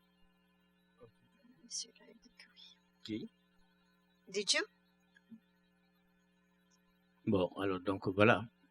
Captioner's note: speaking french